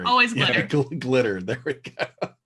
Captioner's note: laughs